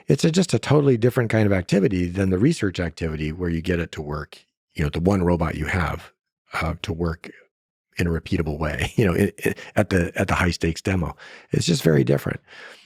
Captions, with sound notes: It's just a totally different kind of activity than the research activity where you get it to work, you know, the one robot you have to work in a repeatable way, (laughs) you know, at the high-stakes demo. It's just very different.